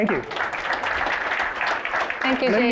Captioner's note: applause